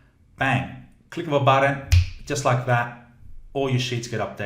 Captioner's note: snaps